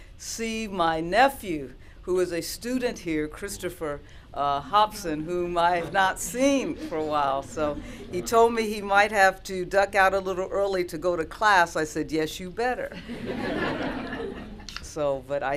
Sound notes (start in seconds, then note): 12.9 laughter